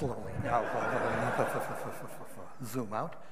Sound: audience laughing

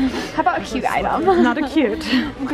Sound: laughs

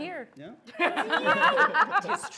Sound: laughs

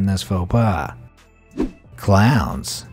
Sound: air whooshing

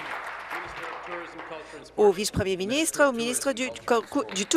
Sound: applause

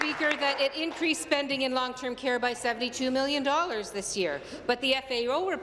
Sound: applause

